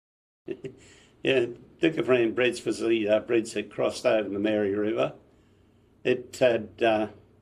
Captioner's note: laughs